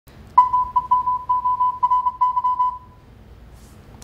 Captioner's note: beeping